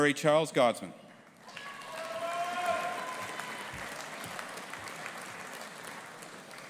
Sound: audience applauding and cheering

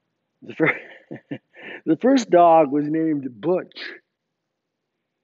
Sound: chuckles

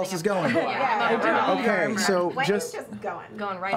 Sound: sounds of agreement from all

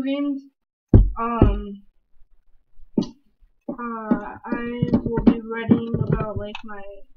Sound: glitchy Pounding on the Computer, Trying to Get Out

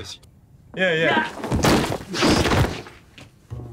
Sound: shout; thud

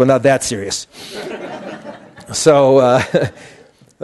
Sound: laughter

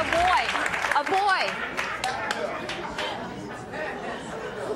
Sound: audience chattering

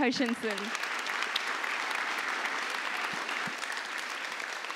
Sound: applause

